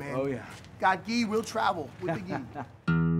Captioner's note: laughs